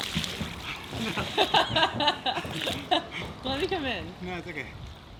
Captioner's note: laughing